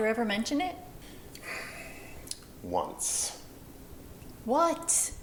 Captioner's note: sighs